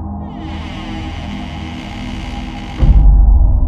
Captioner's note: door creaks